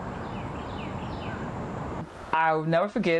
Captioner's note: birds chirping